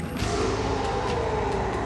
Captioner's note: roars